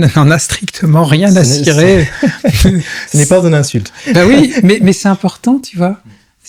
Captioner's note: laughs